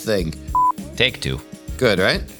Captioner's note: beep